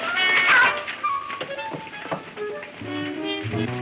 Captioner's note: playful music playing; man shouting